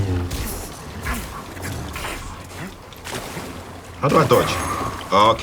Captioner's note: lightsaber swinging